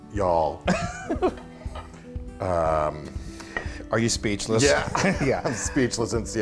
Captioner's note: laugh